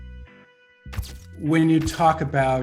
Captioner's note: camera lights flashing